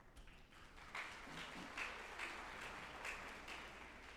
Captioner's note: group applauding